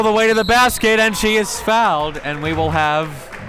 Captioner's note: whistle tweeting